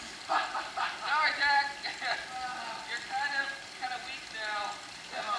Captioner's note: laughing